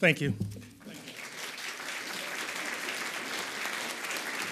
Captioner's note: audience applauds